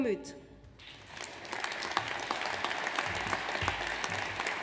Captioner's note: audience applauds